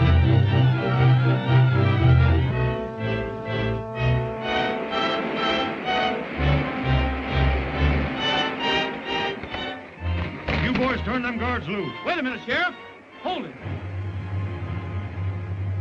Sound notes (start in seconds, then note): 5.5 water splashing